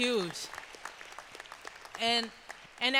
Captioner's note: applause